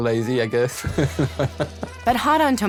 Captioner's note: laughs